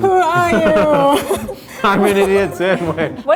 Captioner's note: laughing